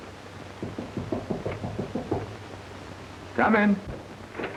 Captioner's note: knocking on door